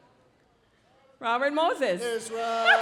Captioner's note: laughs